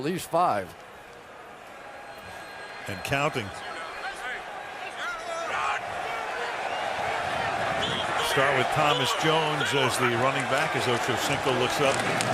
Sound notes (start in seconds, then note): 4.3 chatter